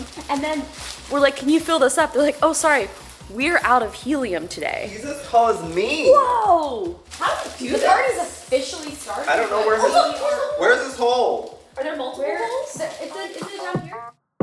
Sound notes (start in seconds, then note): 10.2 women talking; 14.2 party music